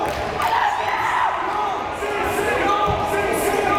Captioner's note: crowd chanting